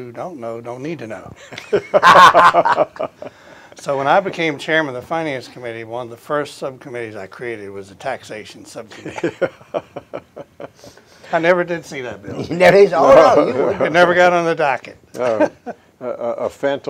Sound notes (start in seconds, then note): 1.4 laughter; 8.9 laughter; 13.0 chuckles